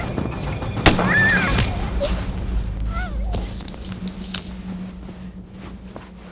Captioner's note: dramatic music; Meg screams